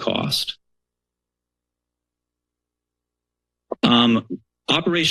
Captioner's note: silence